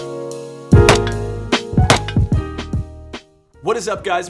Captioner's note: smooth jazz music; weapon popping